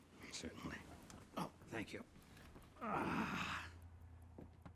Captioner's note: groaning